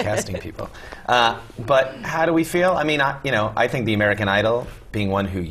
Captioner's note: laugh